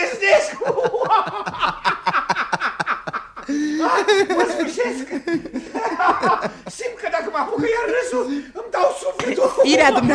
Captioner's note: laughs out loud